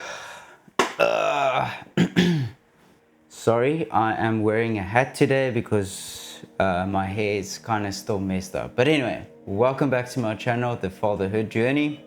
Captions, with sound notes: (sighs) (coughs) Sorry, I am wearing a hat today because my hair is kinda still messed up. But anyway, welcome back to my channel, The Fatherhood Journey.